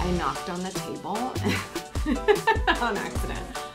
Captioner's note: laughs